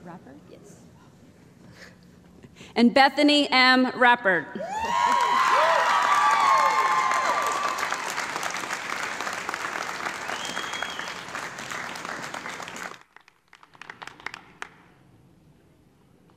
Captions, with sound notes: And Bethany M. Reppert. (raucous applause)